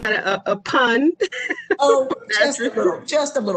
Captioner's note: laughter